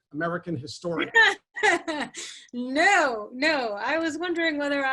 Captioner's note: chuckles